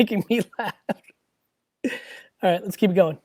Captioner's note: laughs